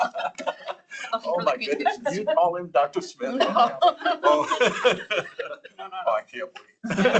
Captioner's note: laughter; laughter